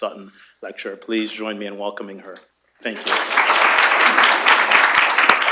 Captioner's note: applause